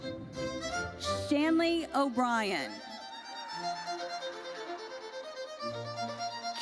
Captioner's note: audience cheers